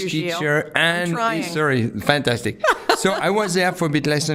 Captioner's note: laughing